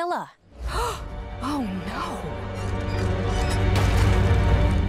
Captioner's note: gasps